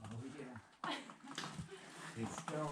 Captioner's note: laughing